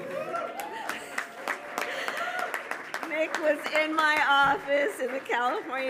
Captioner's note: applause